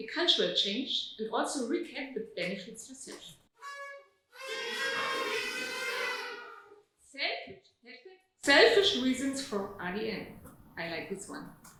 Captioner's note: audience toots